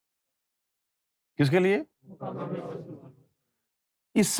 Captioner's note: audience repeats